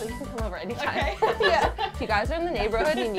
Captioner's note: laughing